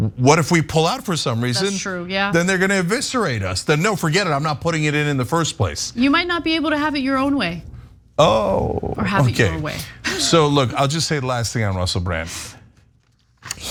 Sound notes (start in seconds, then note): 10.0 laugh